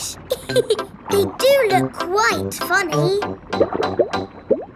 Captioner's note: laughs